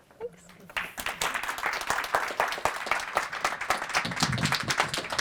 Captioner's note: applause